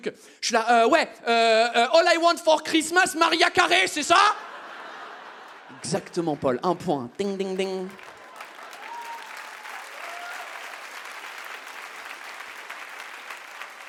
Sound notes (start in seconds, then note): 2.0 French accent; 4.3 audience laughs and claps; 7.1 audience claps and cheers